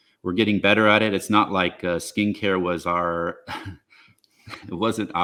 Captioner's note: chuckles